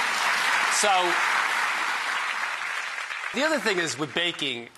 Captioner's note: applause